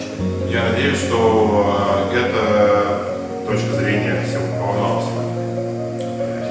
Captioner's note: speaking in a foreign language